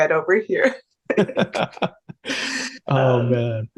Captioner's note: laughing